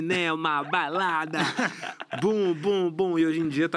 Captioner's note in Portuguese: risos